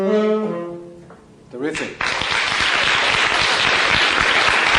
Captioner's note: applause